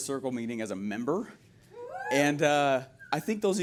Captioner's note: audience members cheer